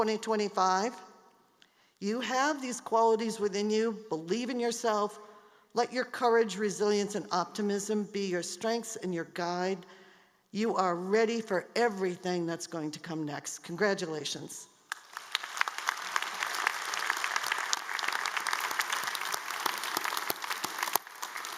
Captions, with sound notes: health for your patients, better communities. And so class of 2025, you have these qualities within you, believe in yourself, let your courage, resilience and optimism be your strength and your guide. You are ready for everything that is going to come next. Congratulations! (APPLAUSE)